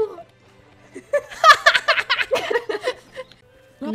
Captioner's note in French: rires